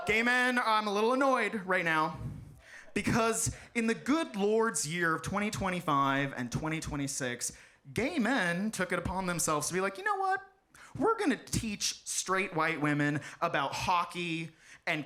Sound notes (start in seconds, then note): none